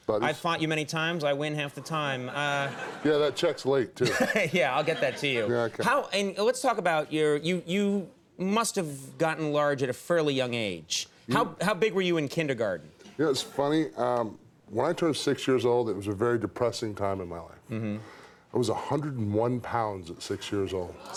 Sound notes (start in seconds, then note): 2.2 audience laughs; 4.0 laughs; 20.9 audience gasps